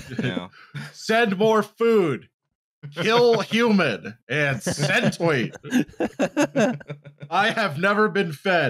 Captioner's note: laughter